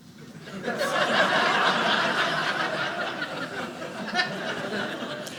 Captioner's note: audience laughing